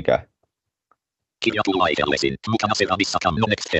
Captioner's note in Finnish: ruudunlukijan puhetta